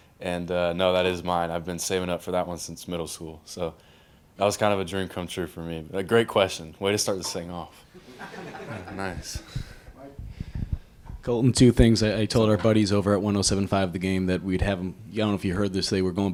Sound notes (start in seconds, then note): 8.0 crowd giggles